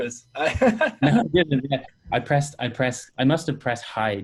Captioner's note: laughing